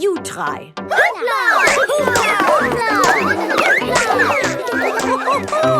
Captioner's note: all laugh